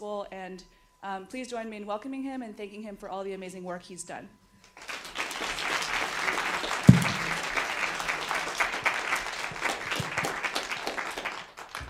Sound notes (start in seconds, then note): 4.7 applause